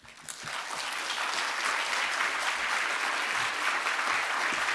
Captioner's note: audience applauding